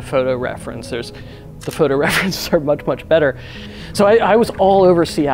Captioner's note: laughing